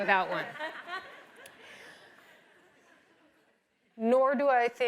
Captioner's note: audience laughs